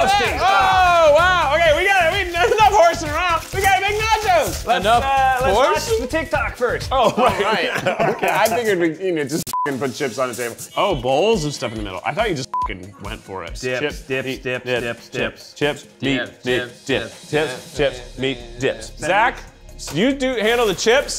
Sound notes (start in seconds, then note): 9.5 beep; 12.4 beep